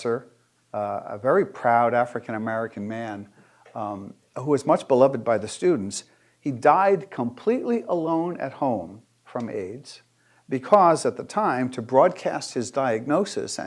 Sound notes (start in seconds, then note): none